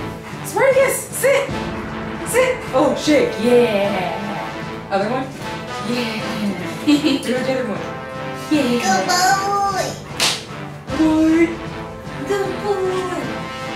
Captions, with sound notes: Spartacus sit, sit, oh shake, yeah. Other one, yeah. [Laughter] Give me the other one, yeah. Good boy. Hi. Good boy.